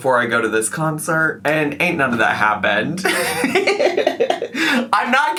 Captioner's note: laughs